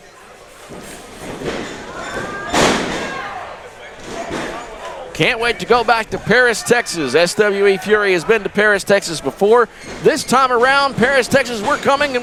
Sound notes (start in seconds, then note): 2.4 body crashing